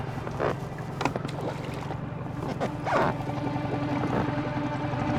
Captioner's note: rubber squeaking